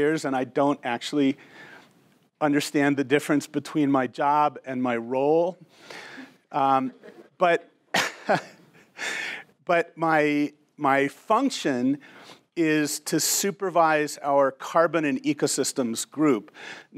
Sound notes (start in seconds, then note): 6.8 laughs